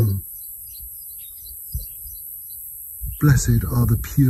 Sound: birds singing

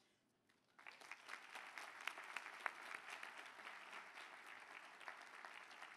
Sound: applause

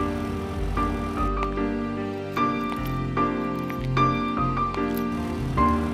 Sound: foot Steps

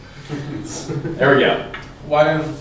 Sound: laughs

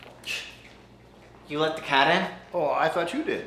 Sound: scoffs

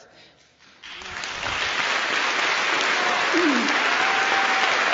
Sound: applause

